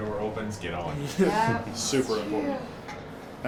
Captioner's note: man chuckles